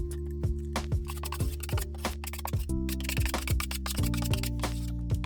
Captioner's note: tool scraping